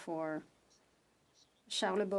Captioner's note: speaking French